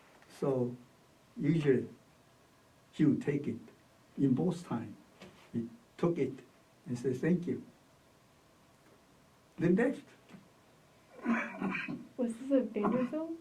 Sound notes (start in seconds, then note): 11.1 coughs